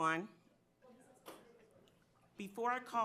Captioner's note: board member speaking faintly